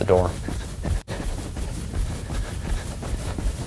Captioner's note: sound of runner’s footsteps